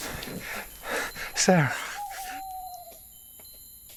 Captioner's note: owl hooting